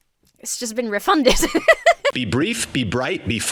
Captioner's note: laughs